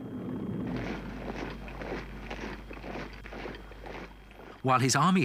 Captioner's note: boots thudding